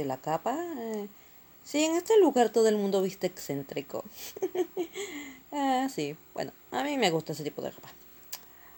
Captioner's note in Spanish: risas